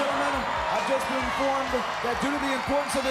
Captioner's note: crowd cheering